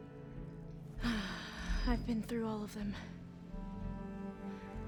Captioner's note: sigh